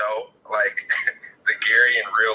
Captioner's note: laughing